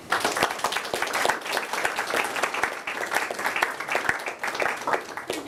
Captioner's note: applause